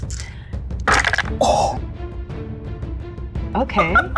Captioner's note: dice clanks